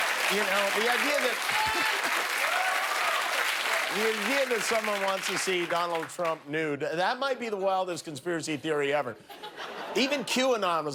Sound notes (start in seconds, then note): 2.6 applause